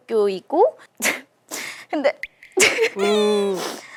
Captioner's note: sigh